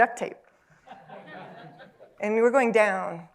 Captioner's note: laughter